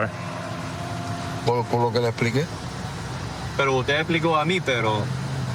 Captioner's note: speaking spanish